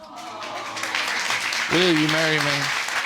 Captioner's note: audience exclaiming and applauding